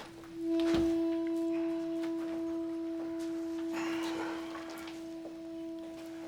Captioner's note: people chatter indistinctly; soft tense jazzy music